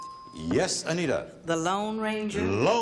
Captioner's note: ding